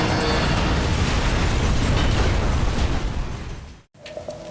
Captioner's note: plane exploding